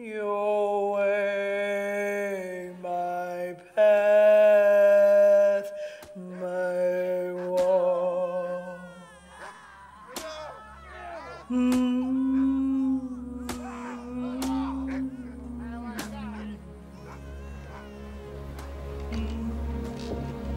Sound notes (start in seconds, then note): 11.2 whipping sounds over humming; 18.5 dramatic music